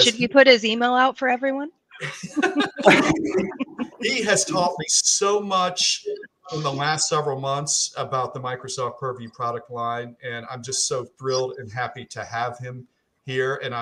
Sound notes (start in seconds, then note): 2.0 group laughing